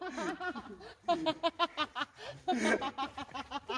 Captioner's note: laughter